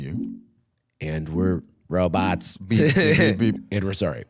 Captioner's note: robotically